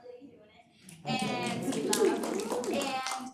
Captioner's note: applause, cheering